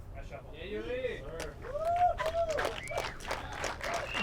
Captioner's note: applause